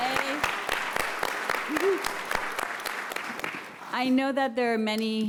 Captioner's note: applause